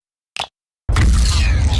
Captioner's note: click